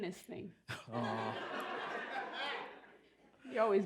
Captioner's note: laughter